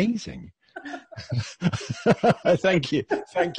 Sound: laughing

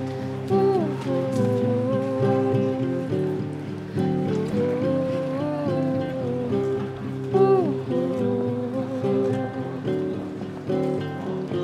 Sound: her little hums to the melody

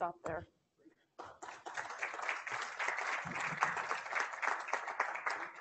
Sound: class applauding

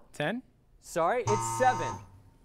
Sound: error buzzer

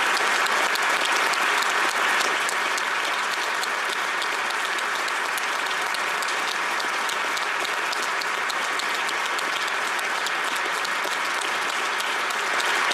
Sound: applause

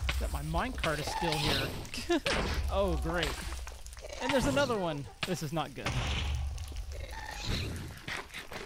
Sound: laughs

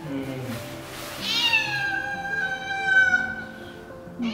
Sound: Raon continues to cry

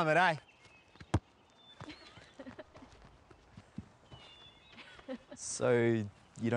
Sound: laughter

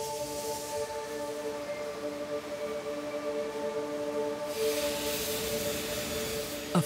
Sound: machine whirring

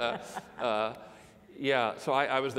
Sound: laugh

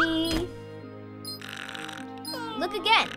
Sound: snoring

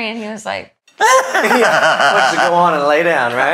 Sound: both laugh

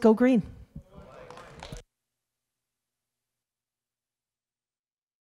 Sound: audience clapping

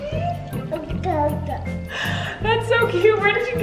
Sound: babbles

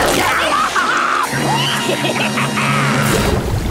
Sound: laughing

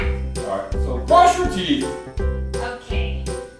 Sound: voiceover

